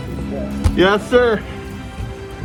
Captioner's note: laughing